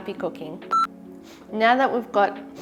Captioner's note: beeping